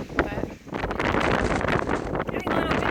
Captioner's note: wind gets louder